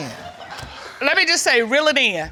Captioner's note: audience laughing